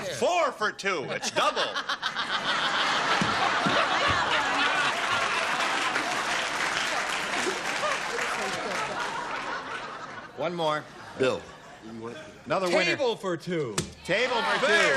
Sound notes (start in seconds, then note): 0.0 singing; 1.1 laughter